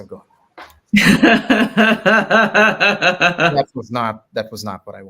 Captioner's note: laughs